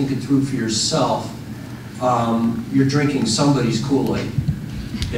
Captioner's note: none